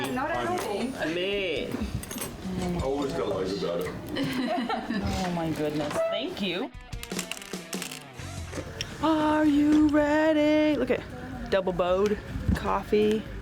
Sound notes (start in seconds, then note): 1.7 cutlery clattering; 4.1 people laughing; 7.0 pepper shaker clicking